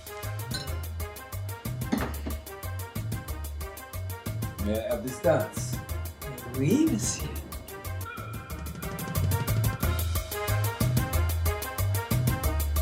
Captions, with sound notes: [upbeat music] - May I have this dance? [Pauline speaking in French] [upbeat music]